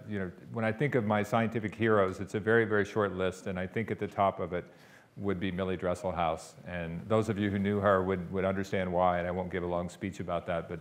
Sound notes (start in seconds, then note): none